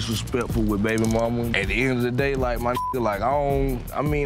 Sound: beep

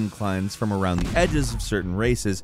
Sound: explosion

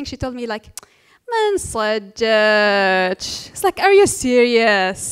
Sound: foreign language

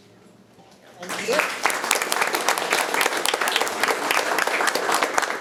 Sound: attendees applauding

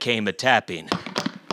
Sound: hoofbeats

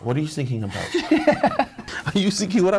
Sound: both laughing

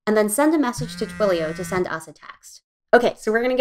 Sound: phone vibrates

